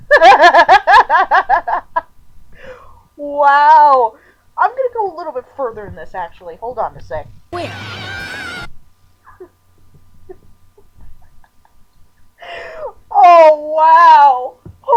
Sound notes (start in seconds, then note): 0.1 laughing; 7.6 cheering